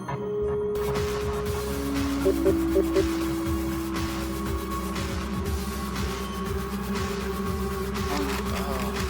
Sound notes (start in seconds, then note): 0.7 energetic music; 2.2 device beeping